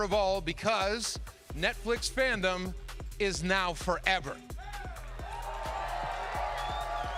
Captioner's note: cheering